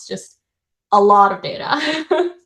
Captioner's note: chuckles